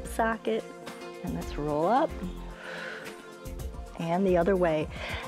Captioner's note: exhales